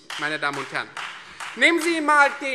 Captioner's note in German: Beifall Freie Demokraten